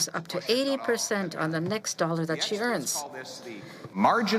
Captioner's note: speaking French